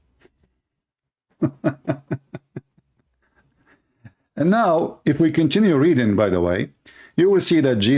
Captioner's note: Ketawa